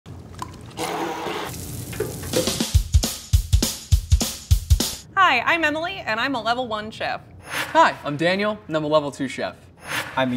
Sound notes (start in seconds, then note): 0.1 liquid sloshing; 0.8 blender whirring; 0.8 fat sizzling; 2.4 upbeat music